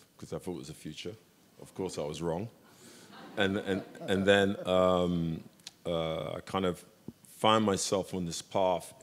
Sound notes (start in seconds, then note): 3.0 audience laughs